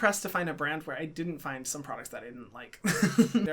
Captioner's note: laughs